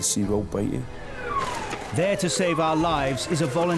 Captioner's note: sirens blare